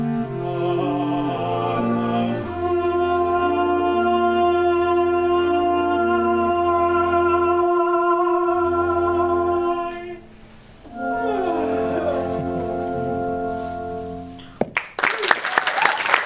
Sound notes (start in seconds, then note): 11.2 yawn; 14.6 applause